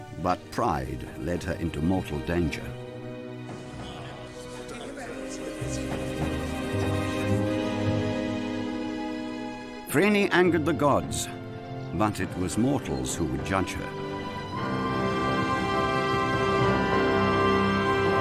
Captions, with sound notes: but pride led her into mortal danger. (people chattering) Phryne angered the gods, but it was mortals who would judge her. (dramatic music soars)